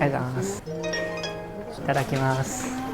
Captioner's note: reader chimes